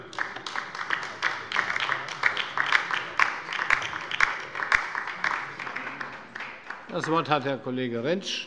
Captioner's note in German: Beifall bei der LINKEN